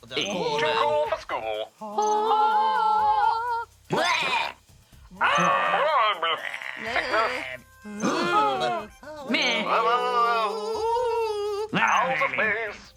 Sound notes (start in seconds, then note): 1.8 all sing angelically; 8.0 all gasp; 10.5 sings